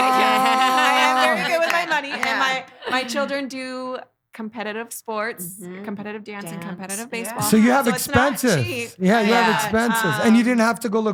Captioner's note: laughing